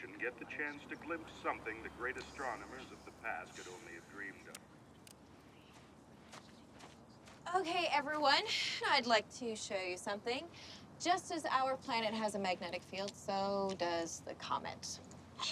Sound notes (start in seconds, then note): 6.1 footstep